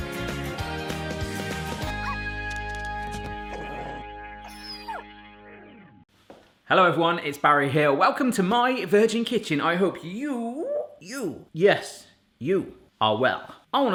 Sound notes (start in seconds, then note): 3.4 dog barks, growls, then whines